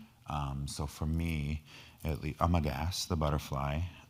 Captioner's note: speaking in foreign language